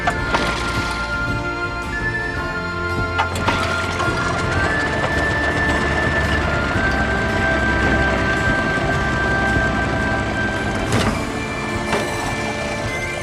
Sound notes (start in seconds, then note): 0.1 motor sputtering; 3.2 motor starting; 11.1 motor stopping